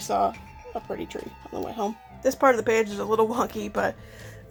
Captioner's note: laughs